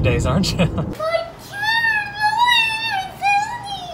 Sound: yelling

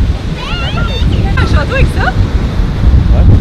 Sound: foreign language

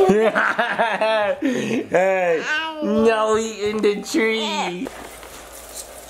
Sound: laughing

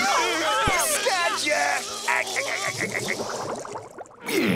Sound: laughing

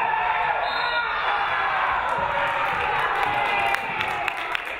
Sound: referee whistles

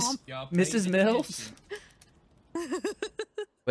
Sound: laughing

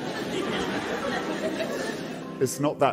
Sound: audience giggles

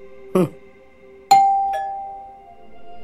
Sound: atmospheric music; doorbell rings

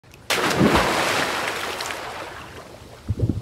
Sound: water splashes

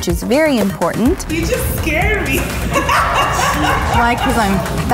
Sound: laughs

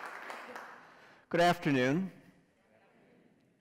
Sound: applause

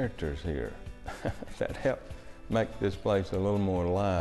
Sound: chuckles

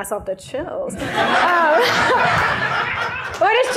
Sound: laughter

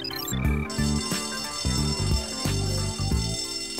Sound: bell ringing

